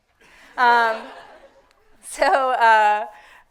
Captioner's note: audience laughing